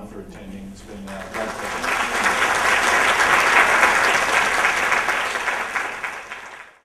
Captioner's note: applause